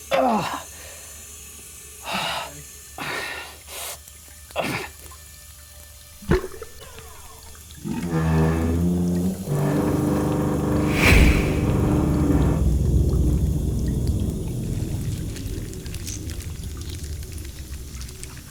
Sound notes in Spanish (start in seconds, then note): 0.1 Jonathan gime; 6.4 el agua gorgotea; 15.3 insectos resbalando